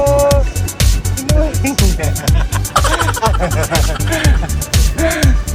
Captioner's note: laughing; laughing SFX